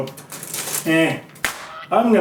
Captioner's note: Goose_dying.mp3